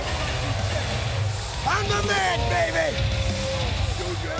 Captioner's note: applause